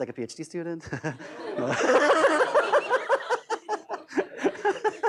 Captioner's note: laughter